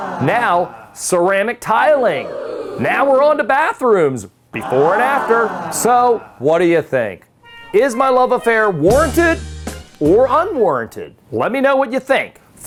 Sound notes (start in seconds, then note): 0.0 audience exclaiming; 1.9 audience exclaiming; 4.5 audience exclaiming; 8.4 smooth soulful music